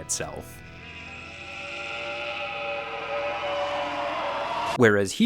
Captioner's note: monster growling